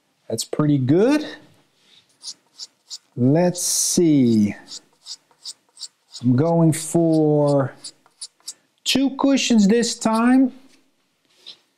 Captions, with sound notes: That's pretty good. Let's see. (cue scratching) I'm going for two cushions this time